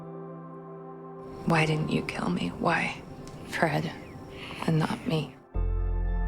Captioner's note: voiceover